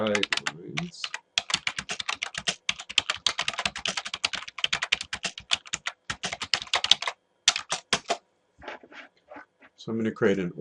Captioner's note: typing